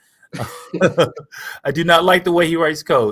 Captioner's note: laughter